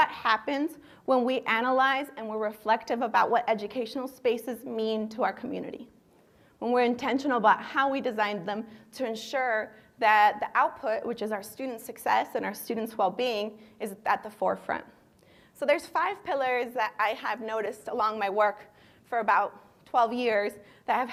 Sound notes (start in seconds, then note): none